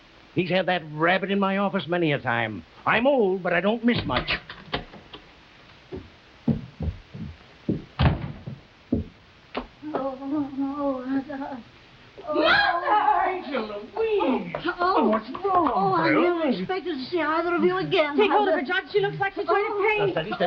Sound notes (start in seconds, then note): 4.7 door latch clattering; 10.1 Veta groaning